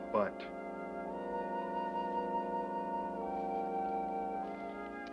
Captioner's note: whistling